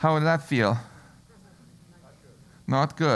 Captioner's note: laugh